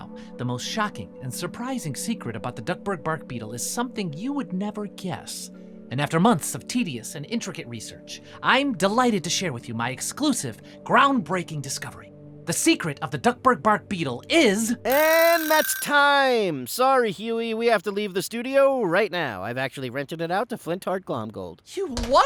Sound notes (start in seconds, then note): 14.9 timer rings